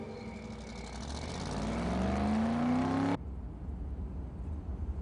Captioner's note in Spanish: Sonido del automóvil